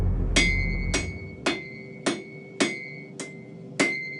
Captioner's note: hammer clanking